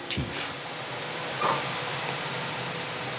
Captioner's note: hissing